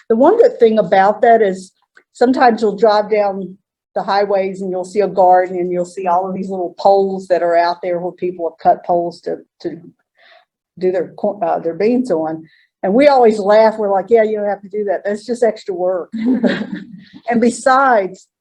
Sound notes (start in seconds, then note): 16.1 laughter